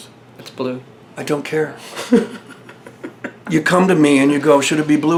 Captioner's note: laughs